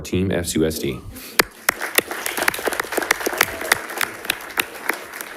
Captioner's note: audience applauding